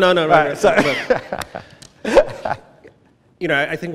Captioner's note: laughs